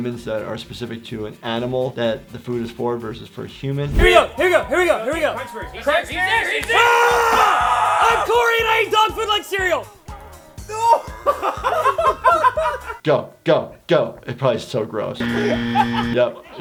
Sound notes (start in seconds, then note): 5.8 group shouting; 10.6 group laughing; 15.2 machine beeping